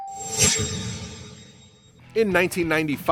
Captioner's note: bell dinging; shimmering swoosh